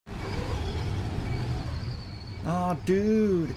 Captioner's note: wind